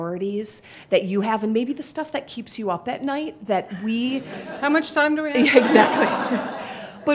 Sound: laughing

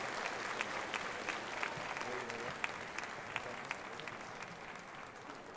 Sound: indistinct chatters

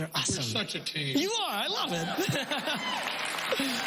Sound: laughs; applause

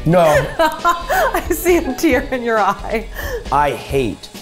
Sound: laughing

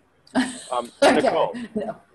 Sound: laughs

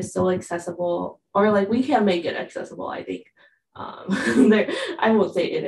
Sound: laughs

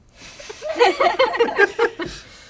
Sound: laughter

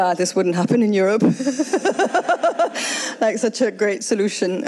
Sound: all laughs

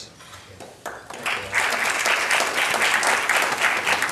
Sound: applause

